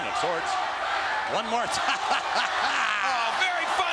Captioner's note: laugh